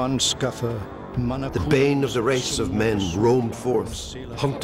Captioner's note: man speaking Old English